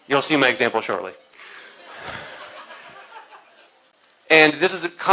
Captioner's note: laughter